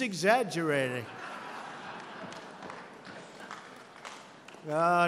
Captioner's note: laughter